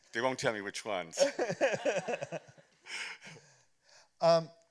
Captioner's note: laughter